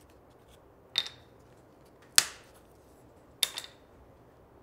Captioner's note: wood clatters